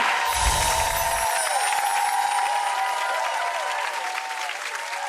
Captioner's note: audience cheering; chiming sounds